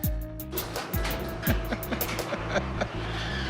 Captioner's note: chuckles